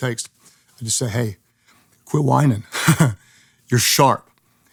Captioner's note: chuckles